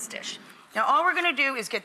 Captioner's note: audience moaning